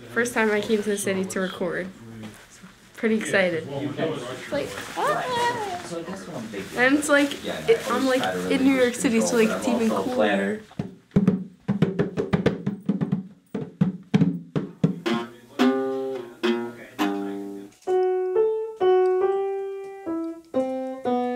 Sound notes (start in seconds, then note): 10.8 hands thudding; 14.1 guitar twanging; 17.8 gentle piano music